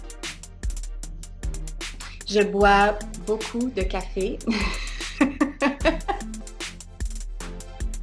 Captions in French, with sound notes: Je bois beaucoup de café [rires].